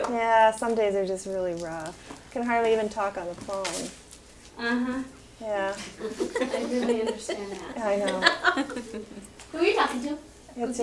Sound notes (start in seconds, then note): 6.0 laughter block speech